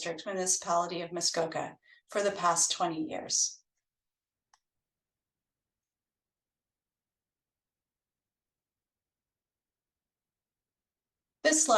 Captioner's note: pause